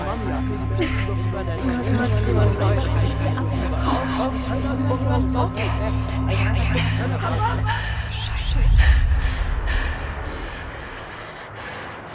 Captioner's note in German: schweres Atmen, düstere Musik, Stimmen flüstern